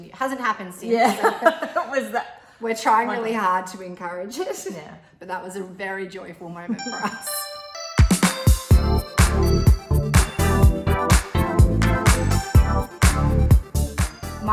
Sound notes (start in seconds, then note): 1.0 both laughing; 7.5 both laughing; 8.3 upbeat synth music